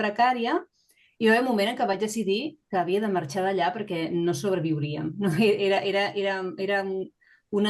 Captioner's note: continues speaking in Catalan